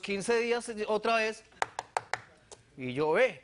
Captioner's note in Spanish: golpea la mesa